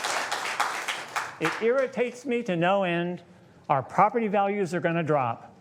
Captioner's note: applause